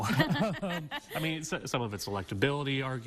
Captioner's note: chuckling